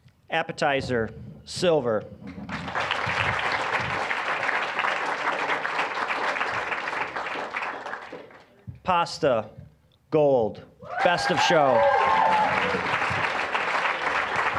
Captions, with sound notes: Appetizer... Silver. (applause) Pasta... Gold, Best of Show. (applause, cheering)